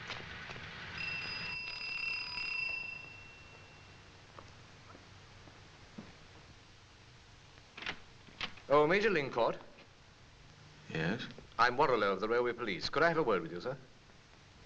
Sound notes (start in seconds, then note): 0.9 doorbell ringing